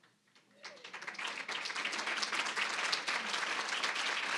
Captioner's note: applause